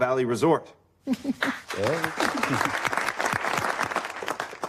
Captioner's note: applause